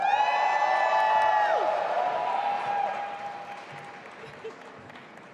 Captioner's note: audience applauding and cheering